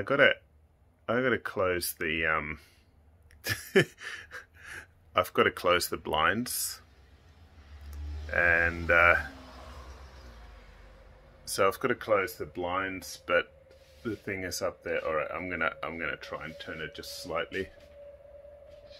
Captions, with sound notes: I got to close the (laughs) I've got to close the blinds, and so I've got to close the blinds, but the thing is up there. All right, I'm going to try and turn it just slightly.